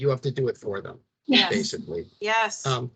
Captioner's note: chuckling